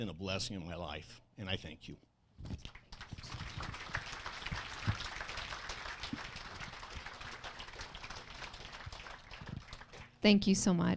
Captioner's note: applause